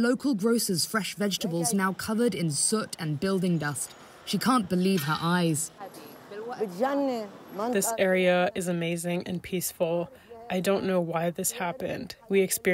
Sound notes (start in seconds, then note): 8.4 through translator